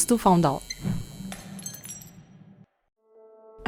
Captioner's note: glass breaks